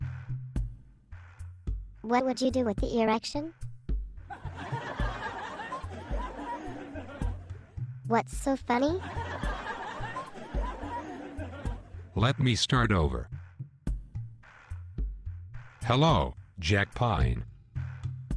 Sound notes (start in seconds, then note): 8.9 most laugh again